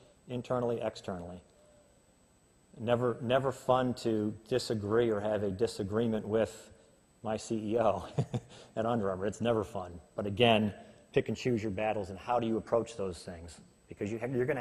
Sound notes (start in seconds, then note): 8.0 laughs